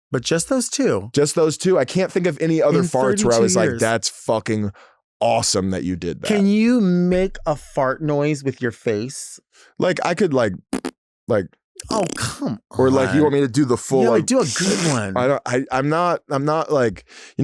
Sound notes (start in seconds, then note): 10.7 tongue farts